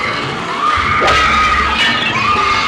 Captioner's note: smashing